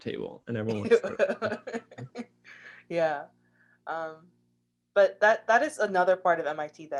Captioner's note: laughs